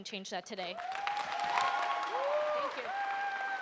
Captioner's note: audience cheers and applauds